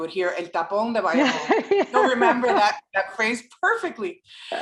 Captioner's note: laugh